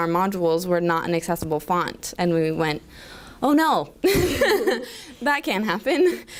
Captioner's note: chuckle